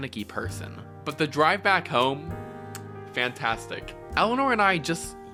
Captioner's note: chef’s kiss